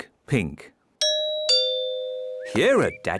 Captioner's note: doorbell rings